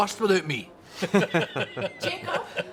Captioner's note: laughing